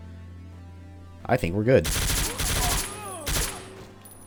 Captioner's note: fully automatic fracas